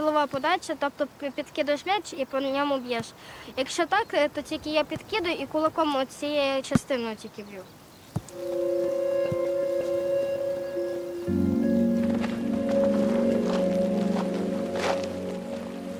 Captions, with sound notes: It's hard for me to hit the ball correctly, so I hit it with my fist. [Calm music] [The sound of gravel]